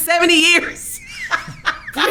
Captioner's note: laughing